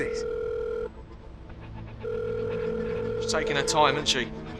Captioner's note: phone dialing